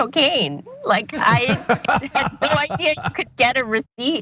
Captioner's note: laugh